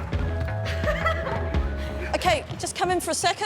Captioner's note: laughing